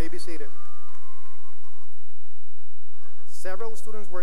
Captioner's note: cheering and applause